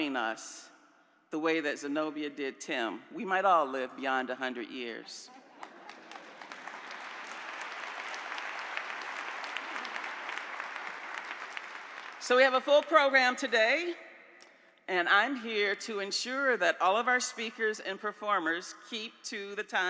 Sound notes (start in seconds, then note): 8.9 laughter; 10.1 applause